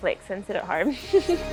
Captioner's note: chuckles